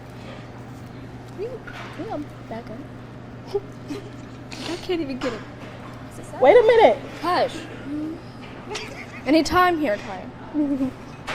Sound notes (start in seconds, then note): 3.7 all giggling; 8.6 giggling